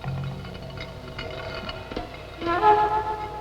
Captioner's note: stone scraping